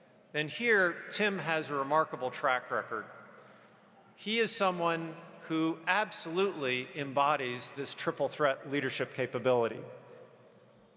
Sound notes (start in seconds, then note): none